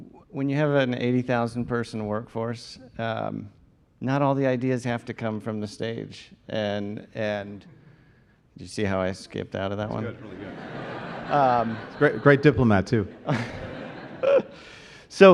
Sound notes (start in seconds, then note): 9.9 laughter